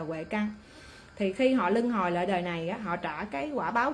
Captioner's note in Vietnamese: khịt mũi